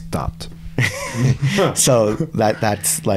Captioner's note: chuckling